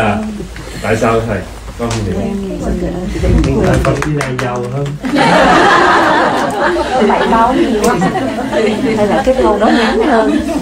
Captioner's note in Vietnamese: đạo tràng cười